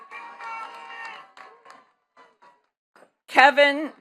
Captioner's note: attendees cheering and clapping